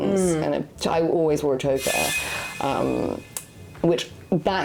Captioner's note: blade swishing